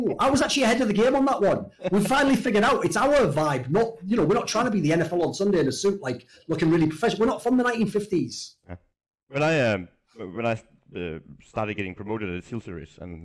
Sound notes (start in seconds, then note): 1.7 laughs